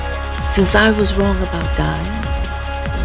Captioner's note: voiceover